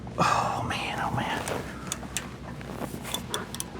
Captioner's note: metal Clanking